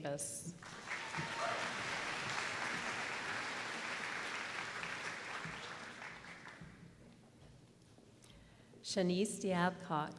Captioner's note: applause